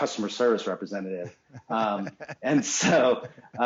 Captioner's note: laughs